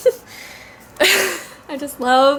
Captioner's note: laughs